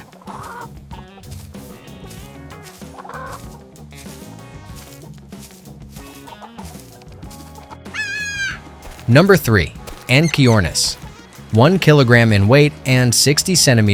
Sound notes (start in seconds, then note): 4.5 bird chirps; 4.5 bird squawks; 4.5 chicken clucks